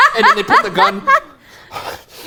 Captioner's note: laughing loudly; pants